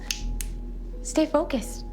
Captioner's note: fingers snap